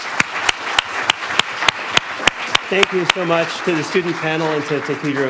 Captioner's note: attendees applauding